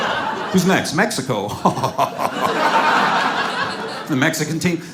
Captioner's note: laughs